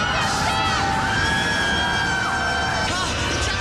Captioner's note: screaming